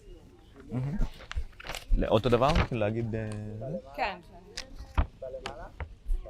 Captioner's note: hebrew